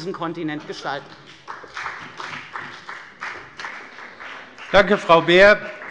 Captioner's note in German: Beifall bei der FDP